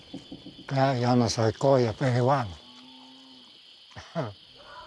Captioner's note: speaking Spanish